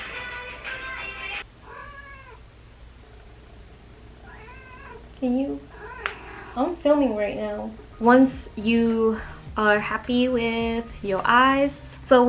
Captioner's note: cat meows repeatedly